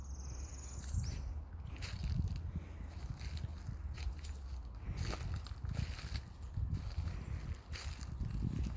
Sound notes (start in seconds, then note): 0.0 birds chipping; 4.1 leaves rustling